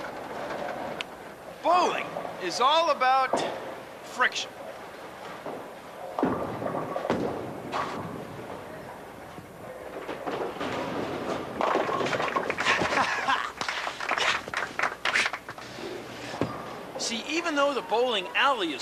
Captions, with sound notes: BOWLING IS ALL ABOUT... FRICTION. ( laughing ) ( applause ) SEE, EVEN THOUGH THE BOWLING ALLEY IS SMOOTH